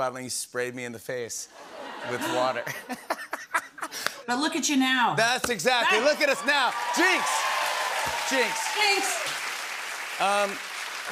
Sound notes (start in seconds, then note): 1.6 laughter; 5.8 cheers and applause